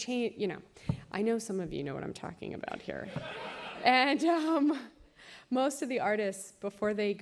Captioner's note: laughter